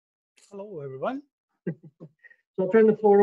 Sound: chuckles

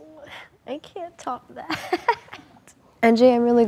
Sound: laughing

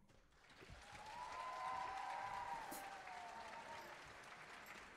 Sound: audience applauding

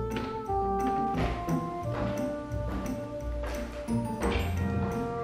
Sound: steps approaching

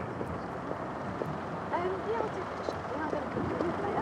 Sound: distant chatter

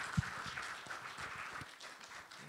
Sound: applause

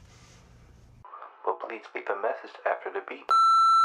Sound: voicemail; phone tone

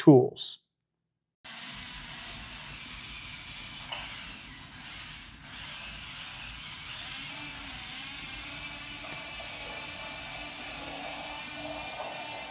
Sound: robot whirring

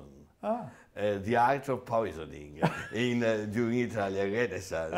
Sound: laughs

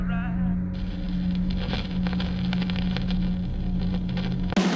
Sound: radio crackling; heavy metal music

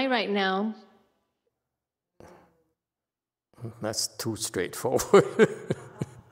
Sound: laughs

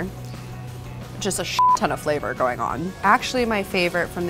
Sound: beep

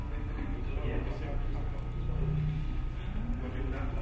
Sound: speaking off mic

